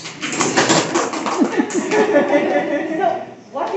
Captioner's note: laughter/applause